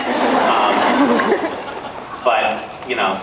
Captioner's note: laughs